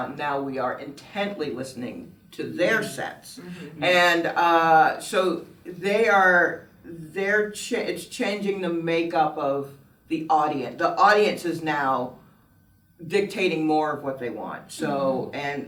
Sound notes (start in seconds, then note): none